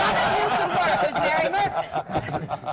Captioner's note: laughter